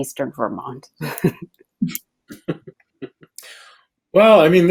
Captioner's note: laughs